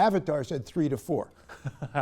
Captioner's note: laughter